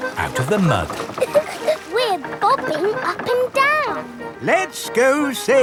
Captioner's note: chuckles